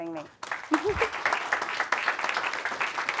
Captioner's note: applause